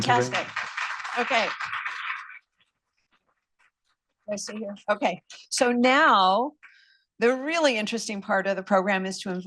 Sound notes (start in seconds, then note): 0.0 applause